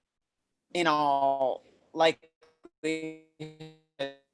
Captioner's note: audio skips